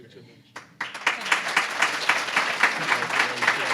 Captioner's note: applause